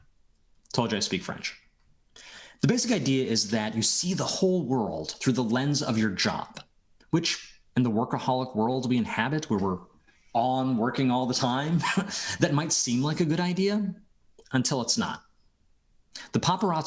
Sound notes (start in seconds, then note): 6.9 speaking French